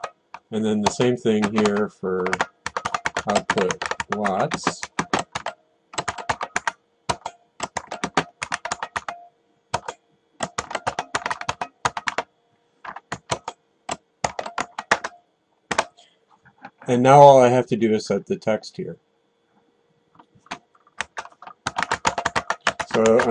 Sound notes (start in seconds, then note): 5.9 typing